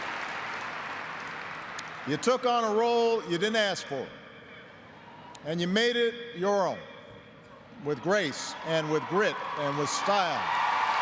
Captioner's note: cheers and applause